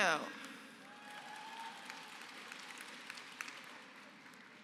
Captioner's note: applause